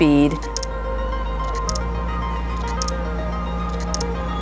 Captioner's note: shutter clicking